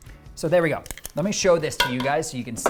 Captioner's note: tongs clicking